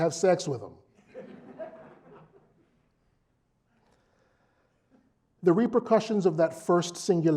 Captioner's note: laugh